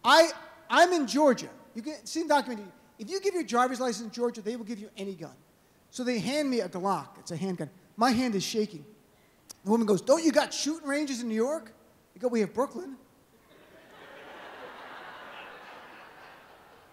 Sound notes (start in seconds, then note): 13.4 laughter